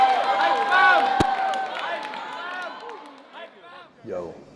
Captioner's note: crowd cheering fading out